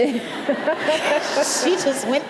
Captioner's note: audience laughing